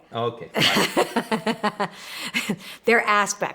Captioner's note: laughing